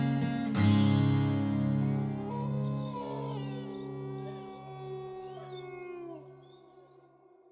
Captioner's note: howling